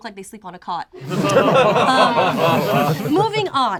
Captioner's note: group laughs